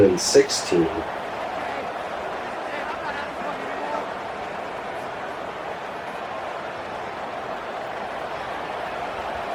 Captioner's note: crowd Noises